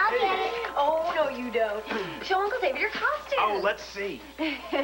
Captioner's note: doorbell rings